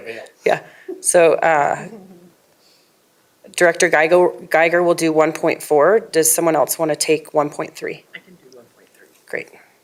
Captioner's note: laughter